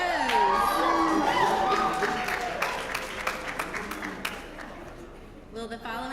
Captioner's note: applause